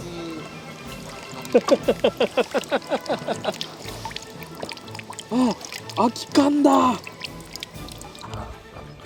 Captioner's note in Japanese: 笑うしかないので 、大笑い